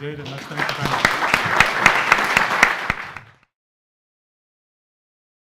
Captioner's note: attendees applauding